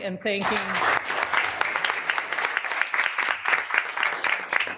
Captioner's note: all applauding